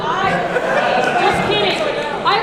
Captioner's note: audience laughs